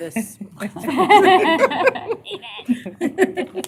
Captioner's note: laughter